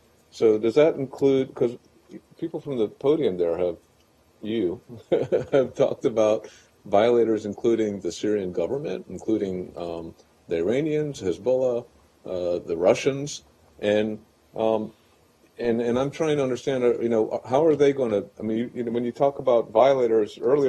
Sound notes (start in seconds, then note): 4.9 laughter